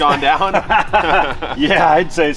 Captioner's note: both laughs